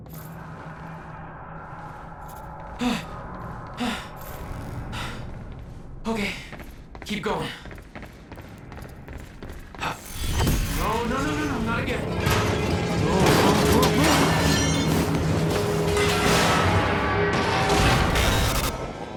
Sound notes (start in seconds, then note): 4.8 breathes heavily